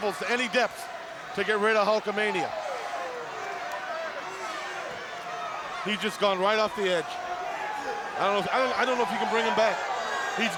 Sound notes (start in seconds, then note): 2.6 crowd cheering